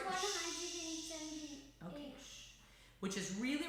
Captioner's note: shushes